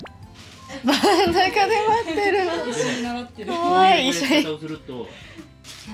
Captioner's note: laughs